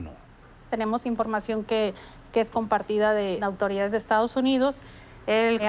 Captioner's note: speaking spanish